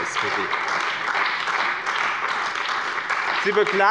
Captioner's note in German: Beifall bei dem BÜNDNIS 90/DIE GRÜNEN und der CDU